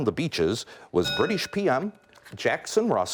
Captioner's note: bell rings